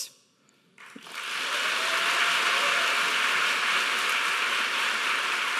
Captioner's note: audience applauding